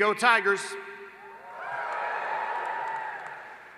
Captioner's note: applause